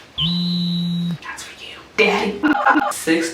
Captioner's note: whispers